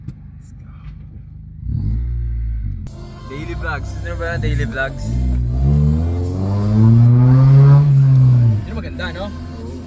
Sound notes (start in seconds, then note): 1.5 engine revving up